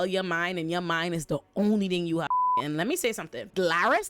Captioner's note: beep